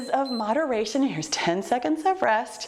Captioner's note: timer beeps